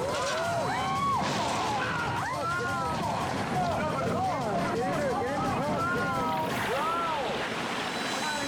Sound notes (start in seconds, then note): 0.0 people screaming; 1.8 people shouting